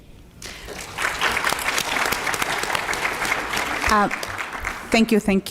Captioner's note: applause